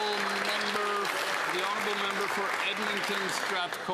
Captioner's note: some Applause